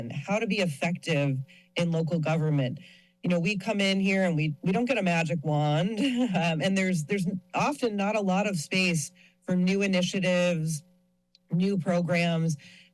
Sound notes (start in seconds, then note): 5.9 laughs